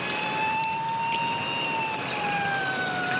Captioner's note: approaching sirens